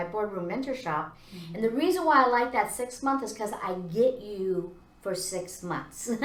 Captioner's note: laughs